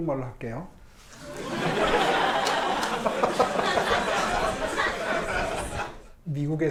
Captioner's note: Mayor Oh and audience laughing